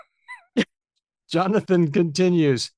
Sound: laughs

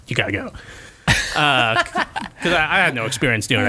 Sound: laughter

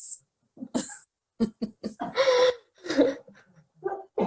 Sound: both laughing

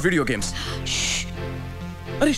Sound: shushing

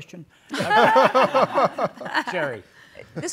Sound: all laugh

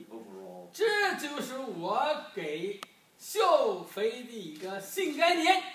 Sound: speaking foreign language

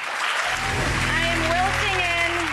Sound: audience cheering

